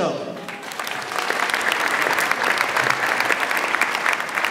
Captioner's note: audience applauds